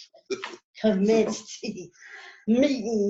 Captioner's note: laughs